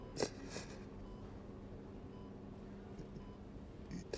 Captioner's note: sniffling